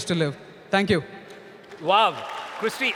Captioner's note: applause